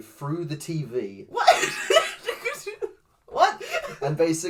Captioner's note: laughs